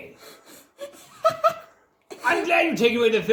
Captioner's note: giggles